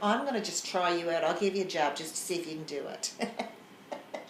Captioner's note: laughs